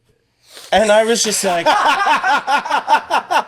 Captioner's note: laughing